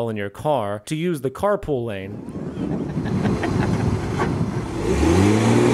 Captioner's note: hehehehe